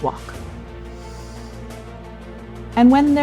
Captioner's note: inhaling